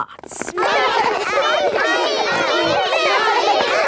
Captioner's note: all laughing and chattering